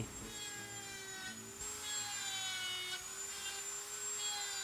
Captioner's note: buzzing and whirring